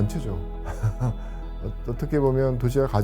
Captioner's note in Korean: 웃음